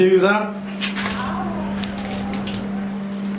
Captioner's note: strange voice